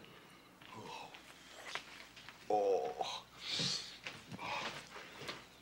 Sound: footsteps

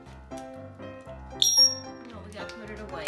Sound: high pitch sound

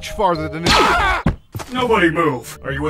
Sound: sheriff screaming

